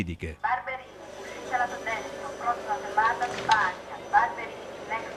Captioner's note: automated announcment